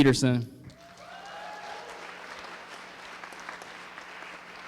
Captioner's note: applause